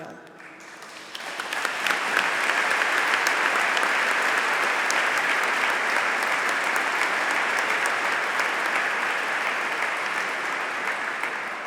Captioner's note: applause